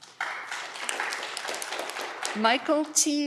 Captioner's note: audience clapping